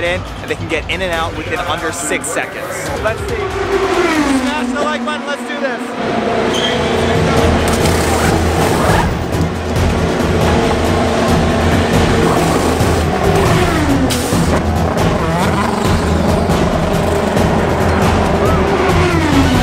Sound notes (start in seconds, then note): 7.3 tools working; 15.5 engine roaring